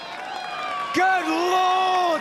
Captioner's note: crowd applauds